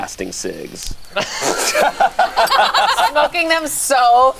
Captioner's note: group laughs